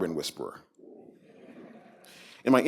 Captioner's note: laughter